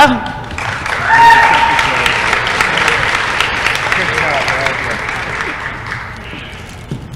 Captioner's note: applause